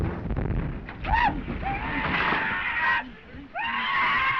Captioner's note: screaming